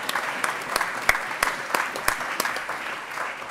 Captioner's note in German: Allgemeiner Beifall